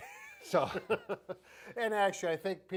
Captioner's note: both laughing